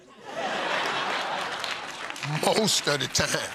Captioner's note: laughter